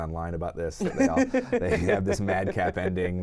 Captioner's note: laughs